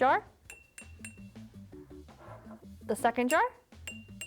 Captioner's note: jar tinking; jar tinking